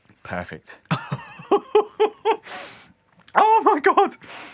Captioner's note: laughter